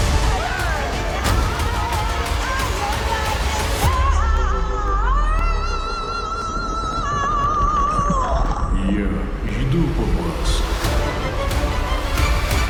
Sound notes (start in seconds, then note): 8.4 sinister voice